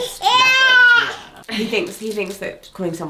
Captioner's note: baby shouts